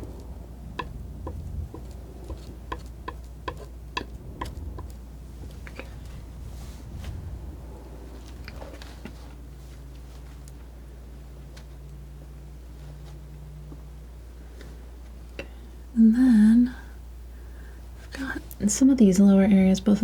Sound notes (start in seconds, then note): 4.6 scratching